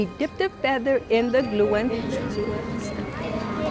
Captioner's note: children murmuring